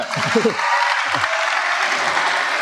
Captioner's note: applause